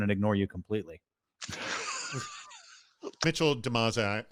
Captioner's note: laughing